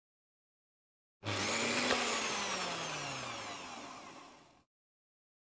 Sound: sound of blender

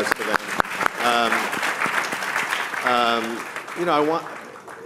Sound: audience applauding

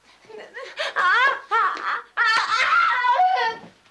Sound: Sandra screams

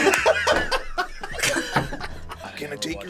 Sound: laughs; both laugh

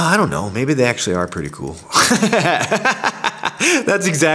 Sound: laughs

